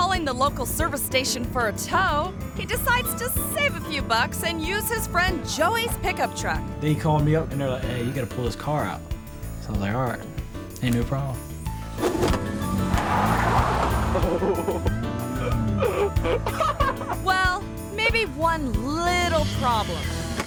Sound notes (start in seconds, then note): 11.7 tire screeches; 12.0 screen whooshes; 14.1 videographer laughs; 18.9 tire screeches